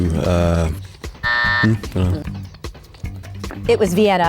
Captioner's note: buzzer buzzes